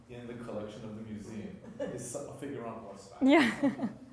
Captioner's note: laughter